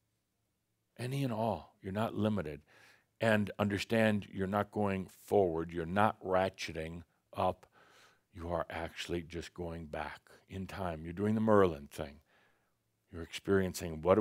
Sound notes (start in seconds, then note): none